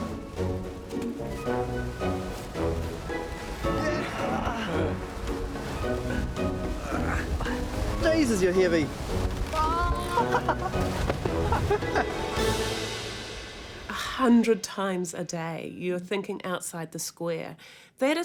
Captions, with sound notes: Jesus, you're heavy! Oh! [Laughs] A hundred times a day you're thinking outside the square.